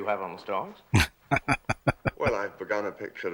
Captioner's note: laughing